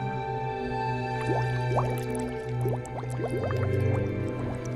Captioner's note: ominous instrumental music continues; water bubbling